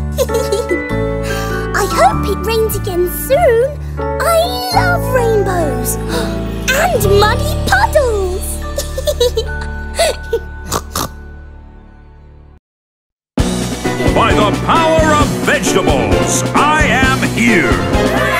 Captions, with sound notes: I hope it rains again soon. I love rainbows! And muddy puddles! [LAUGHING] [SNORTS] By the power of vegetables, I am here.